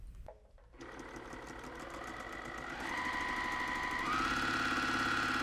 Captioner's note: sewing machine clunking